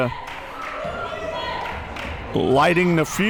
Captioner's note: crowd members chanting